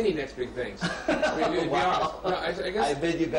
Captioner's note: laughs